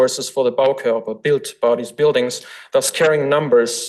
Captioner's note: foreign language